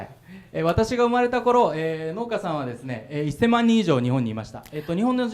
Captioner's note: speaking foreign language